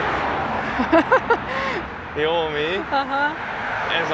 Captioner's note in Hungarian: nevetés